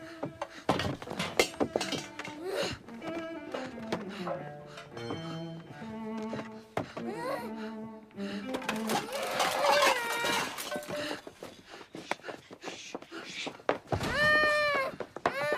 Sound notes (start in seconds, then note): 8.9 cries; 14.1 moaning